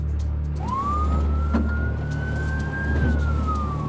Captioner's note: siren wailing